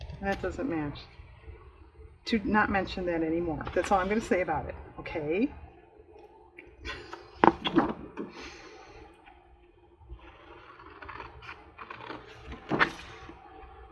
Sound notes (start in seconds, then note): 11.1 laughs